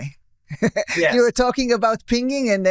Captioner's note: laughter